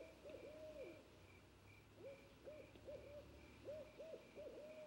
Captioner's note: crickets chirping